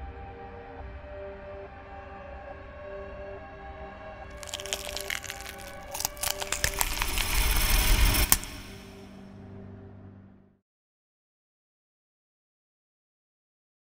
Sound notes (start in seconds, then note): 4.3 neck popping